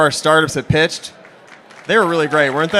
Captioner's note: applause